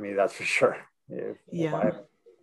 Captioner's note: laughing